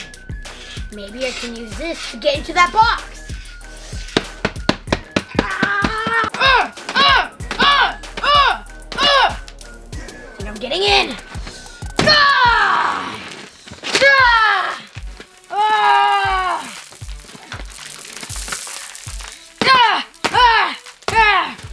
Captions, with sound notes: Maybe I can use this to get into that box! (grunting) Think I'm getting in. (yelling) (shouting)